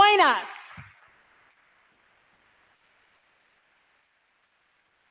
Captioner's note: audience applauding